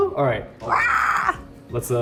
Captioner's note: Arden screeches